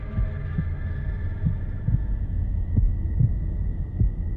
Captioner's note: heart beating